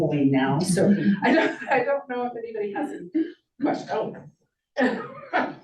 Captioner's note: chuckles